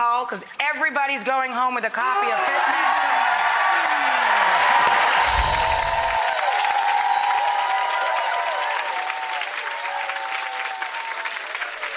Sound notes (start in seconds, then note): 3.5 audience applauds